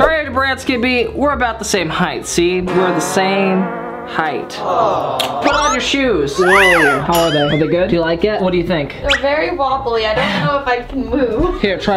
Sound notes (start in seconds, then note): 6.3 crowd aww sound effect